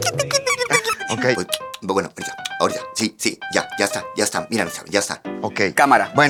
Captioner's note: rants in velvetine language